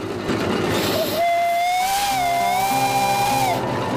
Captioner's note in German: Pfeifen